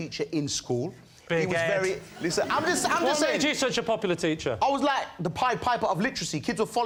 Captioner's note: laughter